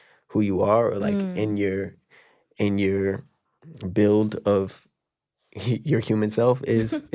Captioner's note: chuckling